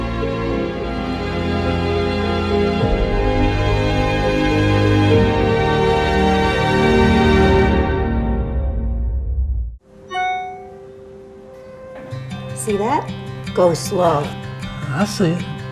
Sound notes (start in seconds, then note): 10.0 email alert